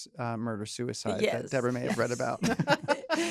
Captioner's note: laughter